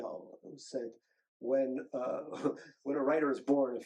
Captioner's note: chuckles